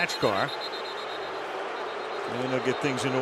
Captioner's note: booing; whistle